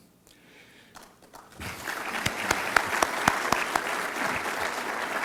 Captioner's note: audience claps